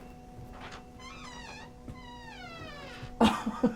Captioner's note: door squeaks; laughing